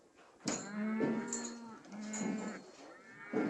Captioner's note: cattle mooing